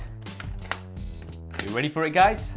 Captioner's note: lock clicks